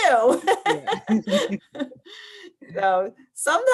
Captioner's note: both laugh